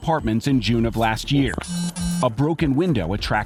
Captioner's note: cellphone buzzing